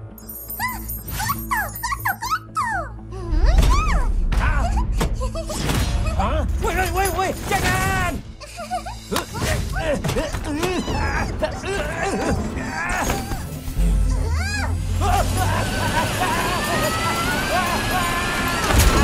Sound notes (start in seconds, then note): 2.9 determined grunt; 4.5 giggles happily; 8.4 giggling; 9.1 both grunting, straining; 15.0 yelping